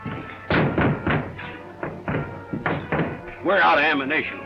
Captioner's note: knocking on doors